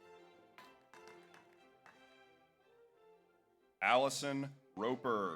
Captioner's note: audience applauds